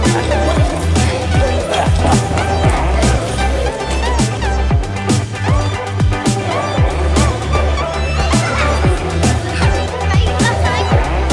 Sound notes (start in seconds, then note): 0.2 upbeat rock music; 3.9 laughter